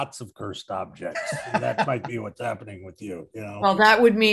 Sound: laughing

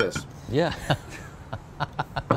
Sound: laughs

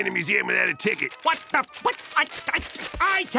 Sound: stammering

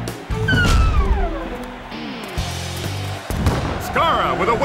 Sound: cheering

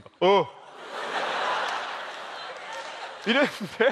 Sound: laugh

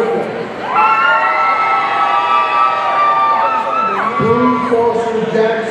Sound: audience cheering

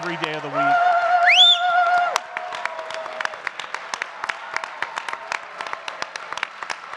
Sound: audience continue clapping and cheering

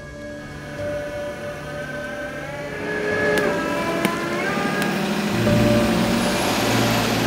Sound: somber music; engine revs

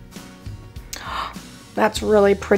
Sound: gasps

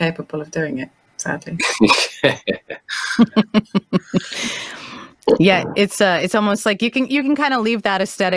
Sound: laughs

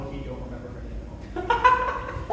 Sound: laughs

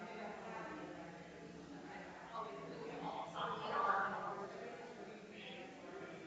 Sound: people chattering distantly continues

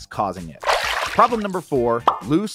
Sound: water splashing

